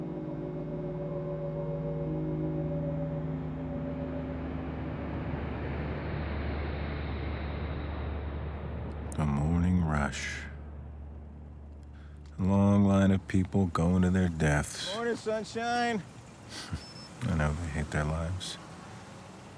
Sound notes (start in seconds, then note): 0.1 somber music; 5.4 traffic humming; 16.5 chuckles